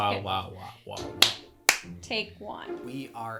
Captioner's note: claps